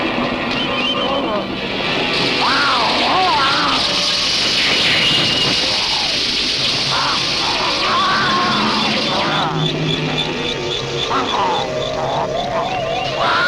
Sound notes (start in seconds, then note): 2.4 growling; 4.7 steam hissing; 6.9 growling; 11.1 snarling